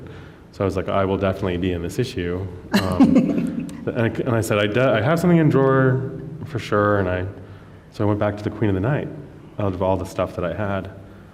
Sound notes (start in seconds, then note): 2.7 laughs